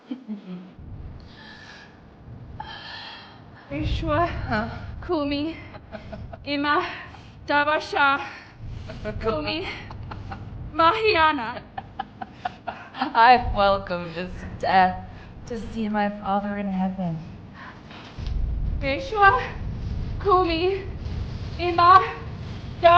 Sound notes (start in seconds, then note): 0.0 Gabriella laughing; 4.0 Gabriella laughing; 4.0 speaking a foreign language; 19.0 speaking a foreign language